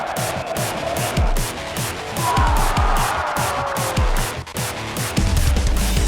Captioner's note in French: cri